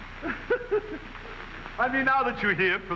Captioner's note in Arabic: رجل يضحك